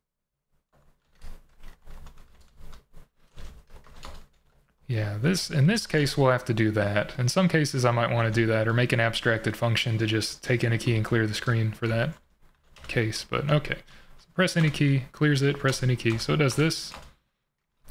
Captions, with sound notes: [typing] Yeah, in this case, we'll have to do that. In some cases, I might want to do that or make an abstracted function to just take any key and clear the screen for that case. But okay. Press any key, clears it, press any key. So does this.